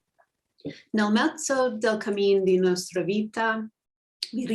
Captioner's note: speaking italian